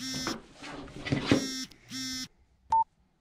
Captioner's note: phone continues vibrating; beep